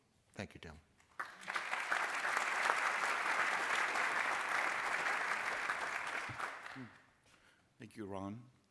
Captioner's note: applause